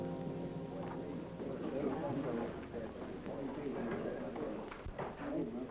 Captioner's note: chatter